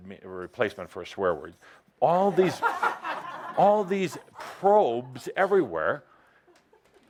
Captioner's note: laughter